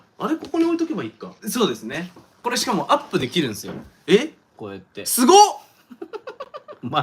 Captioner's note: surprised